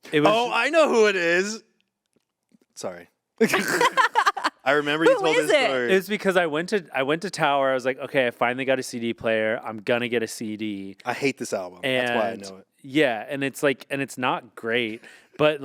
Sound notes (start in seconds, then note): 3.4 group laughing